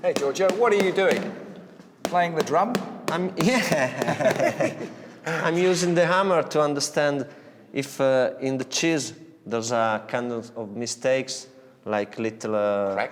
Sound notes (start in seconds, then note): 3.4 laughs